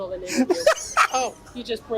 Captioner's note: laughs